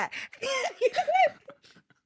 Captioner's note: laughing